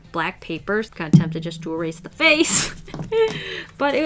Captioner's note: laughs